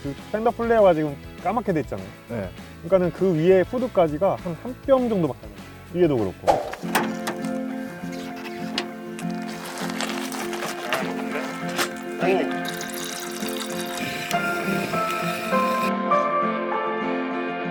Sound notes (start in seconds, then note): 8.2 tail gate opens